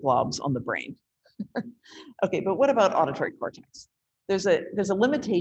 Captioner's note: chuckles